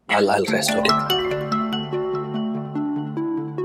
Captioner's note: mobile phone rings